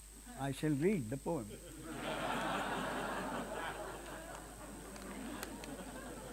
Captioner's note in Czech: smích